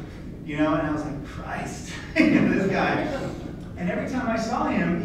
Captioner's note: laughs